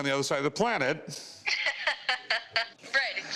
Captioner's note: laughing